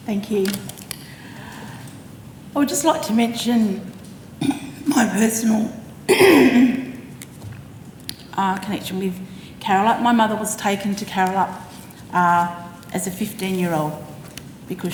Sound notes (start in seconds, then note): 4.4 clears throat